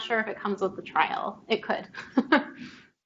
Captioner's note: chuckles